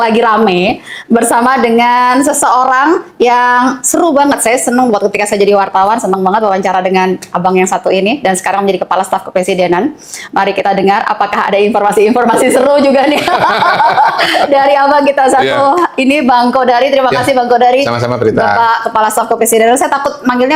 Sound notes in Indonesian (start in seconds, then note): 12.2 tertawa